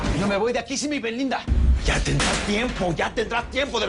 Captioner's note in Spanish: Disparos